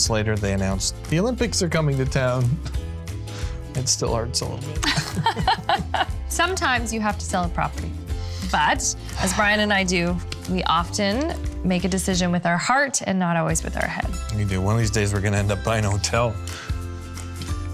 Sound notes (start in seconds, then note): 4.8 laughing